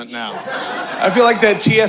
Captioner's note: audience laughing